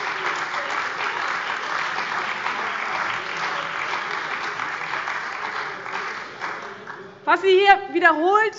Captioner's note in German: Beifall bei dem BÜNDNIS 90/DIE GRÜNEN und der CDU